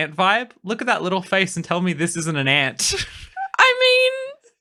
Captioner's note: laughing